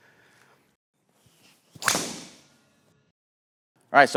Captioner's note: club whacking